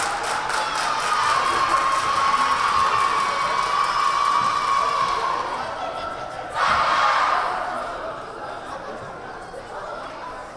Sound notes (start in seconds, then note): 0.0 team cheering